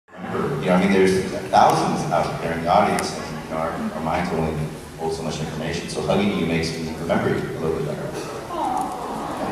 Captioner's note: audience awwwws